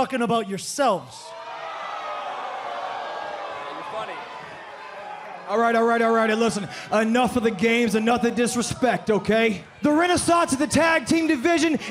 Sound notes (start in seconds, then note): 1.5 crowd cheering